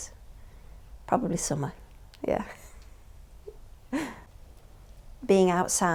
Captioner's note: chuckles